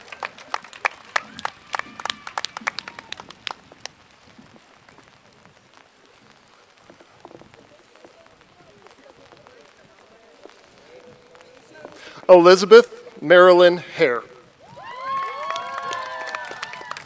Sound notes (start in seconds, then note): 0.0 cheers and applause